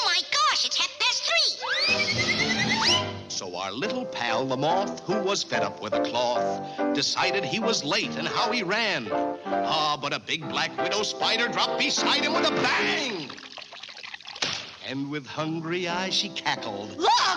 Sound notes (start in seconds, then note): 1.8 air squealing; 12.3 water splashing